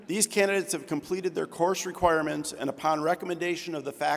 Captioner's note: none